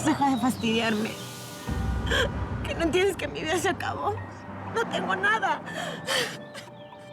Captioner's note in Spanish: solloza